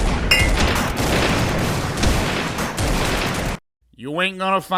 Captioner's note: sounds of 20th century warfare